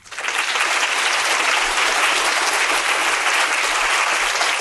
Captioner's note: audience applauding